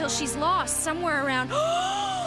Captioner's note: gasp